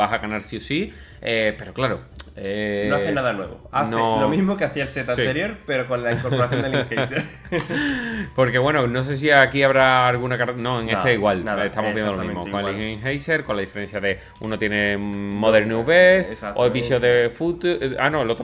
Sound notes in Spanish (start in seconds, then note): 6.0 risas